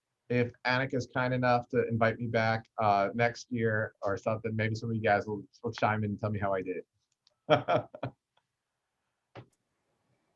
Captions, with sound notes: if Annica is kind enough to invite me back next year or something, maybe some of you guys will chime in and tell me how I did. (laughing)